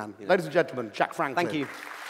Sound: applause

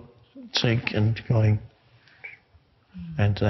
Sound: whistles

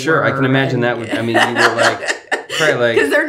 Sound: laughs

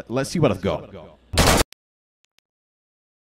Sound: shooting

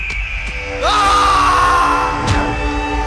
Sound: scream

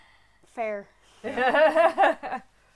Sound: laughter

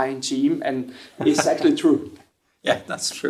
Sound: chuckling

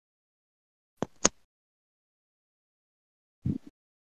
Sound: silence

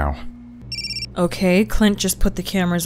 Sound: phone rings

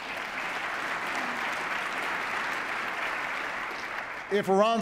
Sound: applause

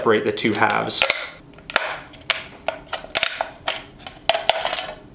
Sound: can crinkling

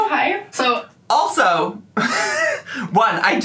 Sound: laughs

